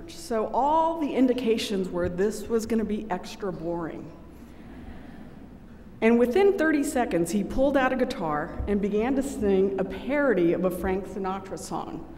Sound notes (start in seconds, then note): none